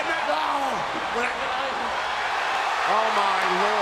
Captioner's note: spectators cheering